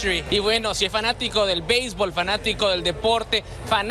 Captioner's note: speaks in Spanish